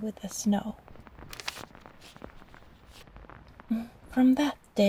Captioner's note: page turn